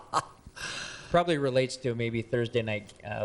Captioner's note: laughs